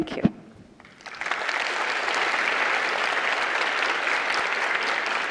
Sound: audience applauding

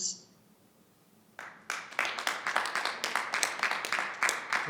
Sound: audience clapping

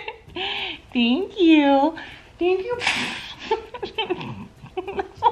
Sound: laughing

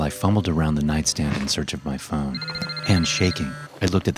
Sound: phone vibrating

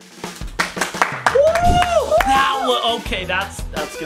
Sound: clapping and cheering

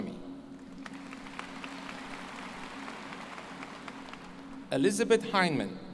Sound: applause

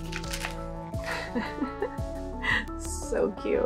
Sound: laughter

